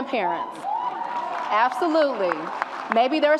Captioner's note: audience applauds and cheers